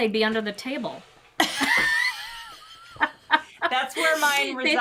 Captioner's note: all chuckles